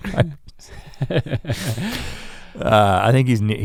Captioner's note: chuckling